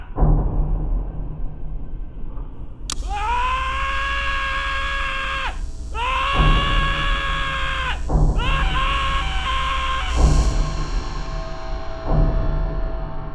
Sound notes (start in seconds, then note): 0.2 upbeat tensed beat; 2.9 man screaming